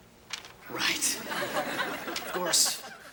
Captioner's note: audience laughing